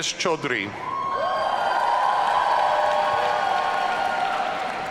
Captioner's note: audience cheering